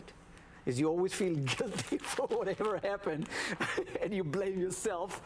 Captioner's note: laughs